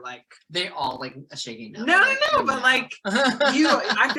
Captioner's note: laughing